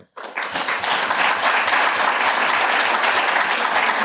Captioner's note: applause